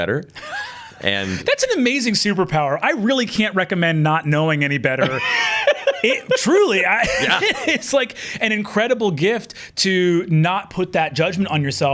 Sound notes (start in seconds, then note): 0.3 chuckles; 5.0 laughing; 5.0 laughs